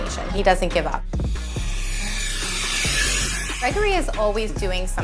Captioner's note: blower whooshes